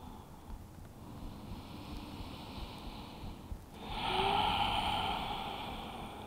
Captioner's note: inhales and exhaling deeply